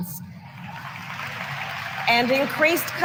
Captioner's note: applause